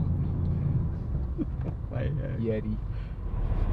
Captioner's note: laughing